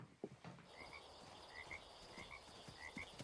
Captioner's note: frogs Croaking